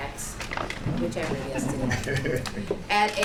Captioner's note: laughter